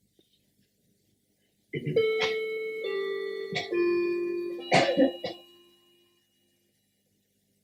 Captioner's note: wall clock chiming